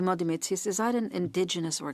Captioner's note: speaking French